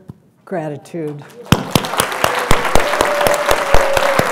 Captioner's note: applause